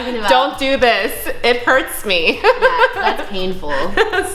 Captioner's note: laughs